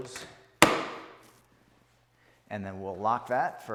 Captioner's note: lever thuds